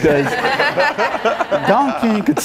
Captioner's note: audience and panel laughing